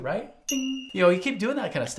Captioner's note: bell dings